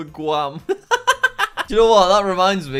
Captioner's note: laughing